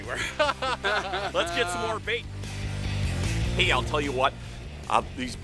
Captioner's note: laughing